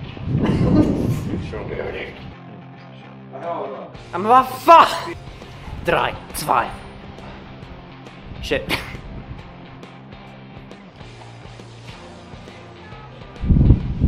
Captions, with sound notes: Oh what the hell? (In German) Three, two...